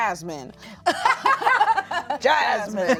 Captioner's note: everyone laughs